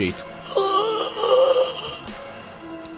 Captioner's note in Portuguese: grunhidos